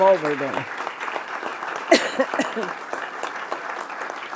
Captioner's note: audience clapping